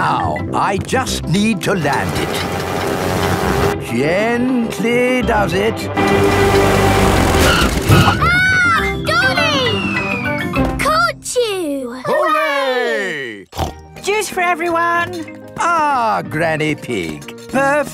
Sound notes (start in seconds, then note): 7.9 screams; 13.5 snorts